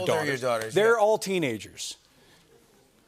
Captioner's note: audience murmuring